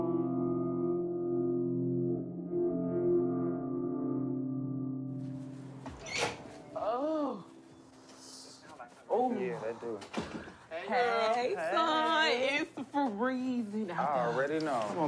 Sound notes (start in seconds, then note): 6.0 door clicks opens; 6.0 sighs